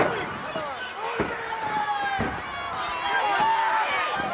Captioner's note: crowd yelling